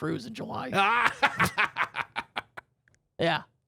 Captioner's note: loudly laughing